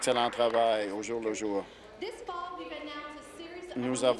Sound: applause

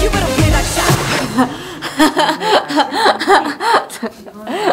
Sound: hahaha

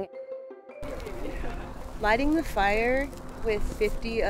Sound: grass burning

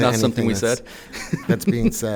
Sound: chuckles

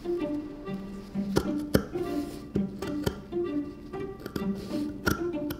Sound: scissors grating

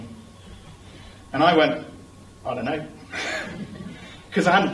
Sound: laughter

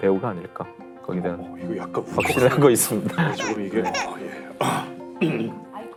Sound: tearing up

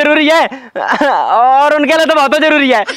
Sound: laughs

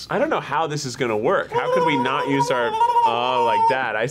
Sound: vocalizing

